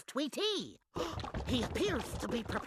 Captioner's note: gasping